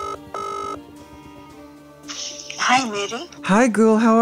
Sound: cellphone ringing

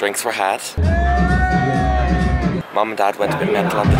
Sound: people cheer

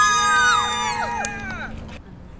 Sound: cheers

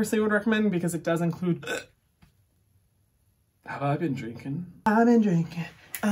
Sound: belches

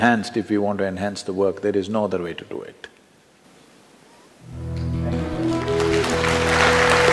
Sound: applause; 掌聲

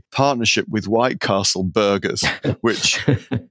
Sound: laughing

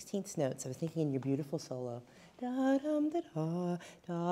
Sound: humming

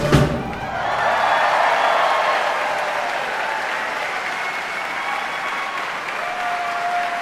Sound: audience cheering; audience applauding

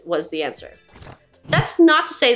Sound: jingling sound

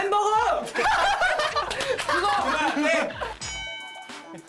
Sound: they're laughing to death

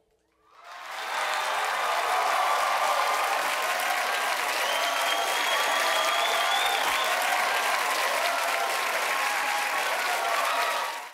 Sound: applause

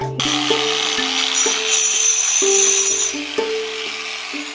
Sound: tool buzzing

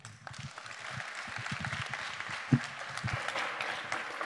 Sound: audience applauding

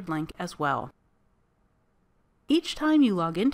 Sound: silence

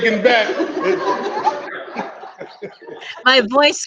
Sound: people laugh softly

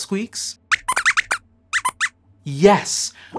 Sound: squeaks squeaks

